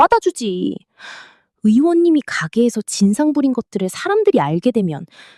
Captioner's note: gasp; sigh